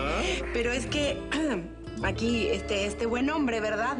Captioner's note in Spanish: Carraspea